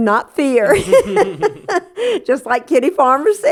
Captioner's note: laughter